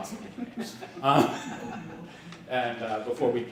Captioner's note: laughing